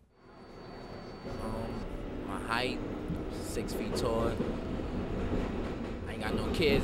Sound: voiceover

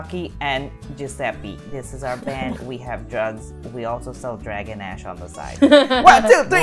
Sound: laughter

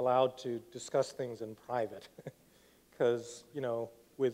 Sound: laughs

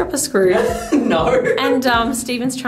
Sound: laughing

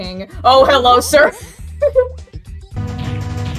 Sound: laughs

